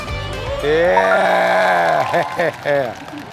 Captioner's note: A sigh of relief